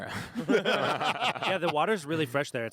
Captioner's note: group laughing